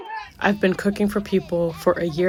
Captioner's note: through translator